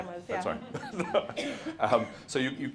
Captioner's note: laughs